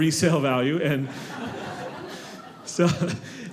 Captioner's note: audience laughing